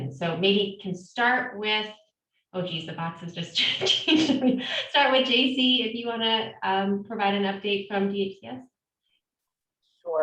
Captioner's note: laughs